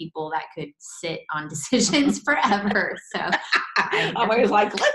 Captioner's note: laughs